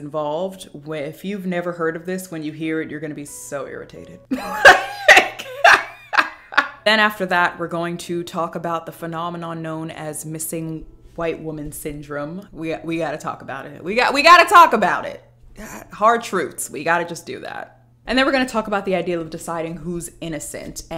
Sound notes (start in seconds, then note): 4.4 laughs